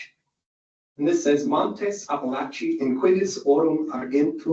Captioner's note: speaking Latin